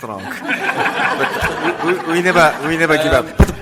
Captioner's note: audience laughs